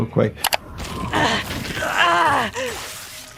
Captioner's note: wind whistling; mouse clicking; Phase Two groaning